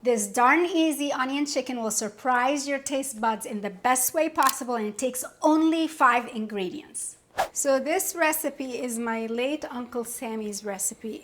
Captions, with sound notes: - This darn easy onion chicken will surprise your tastebuds in the best way possible, and it takes only five ingredients. (screen whooshes) So this recipe is my late Uncle Sammy's recipe.